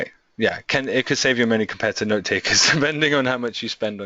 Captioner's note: chuckles